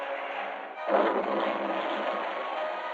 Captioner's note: explosion booming